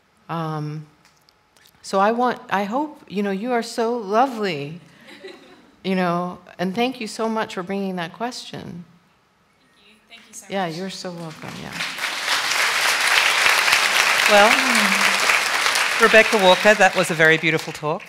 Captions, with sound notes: So I want, I hope, you know, you are so lovely, you know, and thank you so much for bringing that question. >> Thank you so much. >> Yeah, you're so welcome, yeah. [ Applause ] >> Well, Rebecca Walker, that was a very beautiful talk.